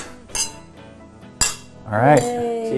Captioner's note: glasses clinking